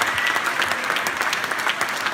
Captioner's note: applause